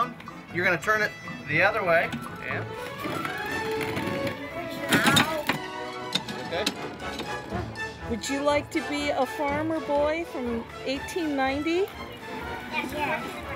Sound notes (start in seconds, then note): 2.7 grinding